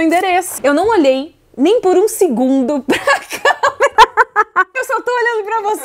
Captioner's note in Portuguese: risos